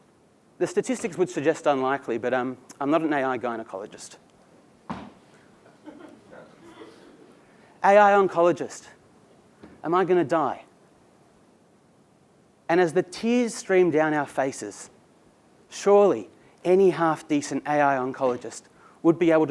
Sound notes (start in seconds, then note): 5.6 laugh